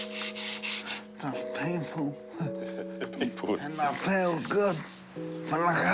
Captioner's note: chuckles